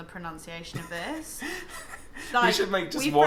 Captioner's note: laughing